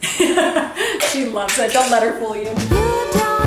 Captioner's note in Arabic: تضحك